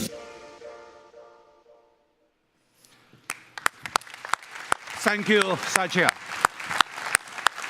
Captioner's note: applause